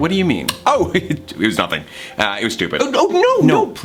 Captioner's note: laughs